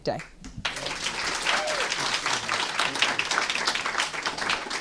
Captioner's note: applause